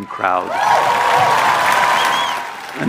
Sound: crowd Cheering

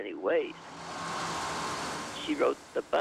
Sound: bus drives

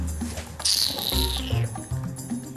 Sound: kisses lips

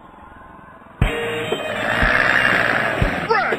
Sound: zombie roar

